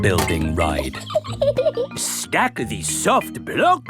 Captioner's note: laughs